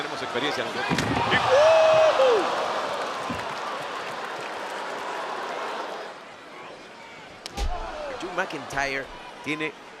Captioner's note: applause